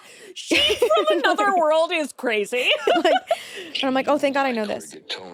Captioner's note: laughs